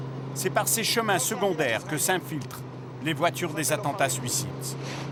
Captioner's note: French spoken audio